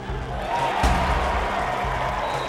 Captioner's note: crowd Roars; intense Music Continues